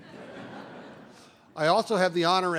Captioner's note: laughter